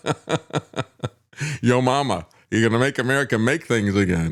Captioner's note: laughs